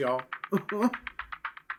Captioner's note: chuckles